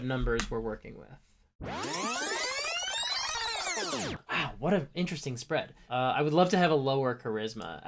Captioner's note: sound effect of tape fast-forwarding